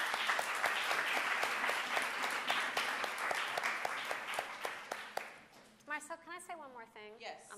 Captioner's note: applause